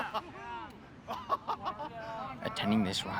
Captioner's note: laughing, exclaiming